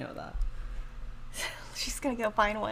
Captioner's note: laughs